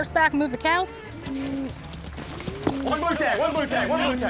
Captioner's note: hoof beats